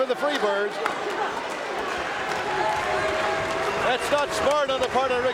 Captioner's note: audience cheering